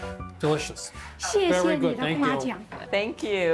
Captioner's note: speaking local language